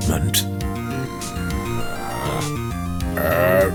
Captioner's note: growls